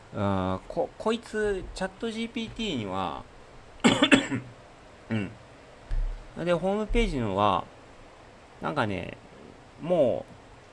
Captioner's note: cough